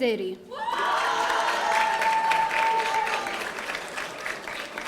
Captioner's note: audience cheering